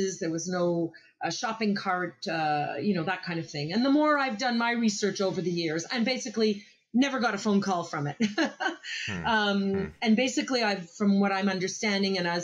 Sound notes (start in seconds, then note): 9.0 laughs